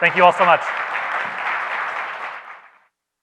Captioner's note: audience applauds